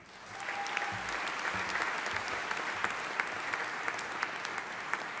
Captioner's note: audience applauding